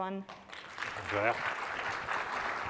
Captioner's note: applause